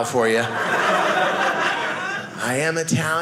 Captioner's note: audience laughing